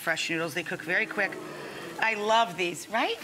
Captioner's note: audience awes